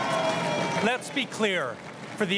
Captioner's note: crowd cheering and applauding